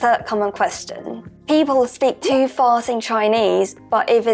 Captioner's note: Mandarin